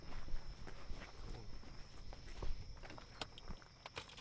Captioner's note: crickets chirping